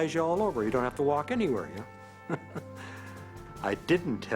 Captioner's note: chuckles